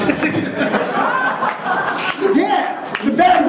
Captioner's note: audience laughing